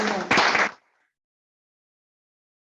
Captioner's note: applause